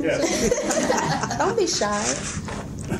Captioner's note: laughing